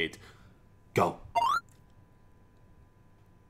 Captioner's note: beep